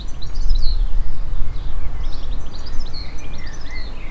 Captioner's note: birds chirping